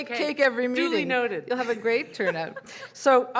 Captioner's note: voiceover